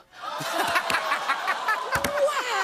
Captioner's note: audience "Ohhs"; laughs